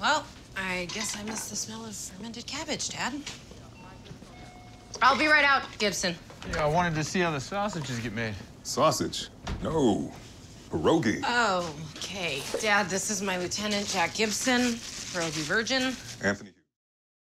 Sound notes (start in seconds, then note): 4.3 door bell chimes